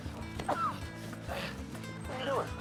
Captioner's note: Gemidos